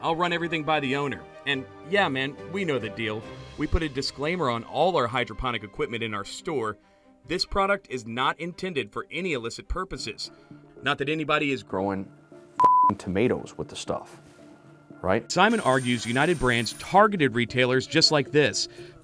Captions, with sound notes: I'll run everything by the owner and yeah man, we know the deal. We put a disclaimer on all our hydroponic equipment in our store. This product is not intended for any illicit purposes, not that anybody is growing (beep) tomatoes with the stuff, right? Simon argues United Brands targeted retailers just like this